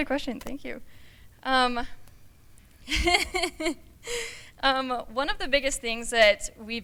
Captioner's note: laughter